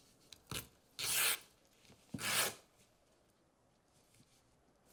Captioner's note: canvas ripping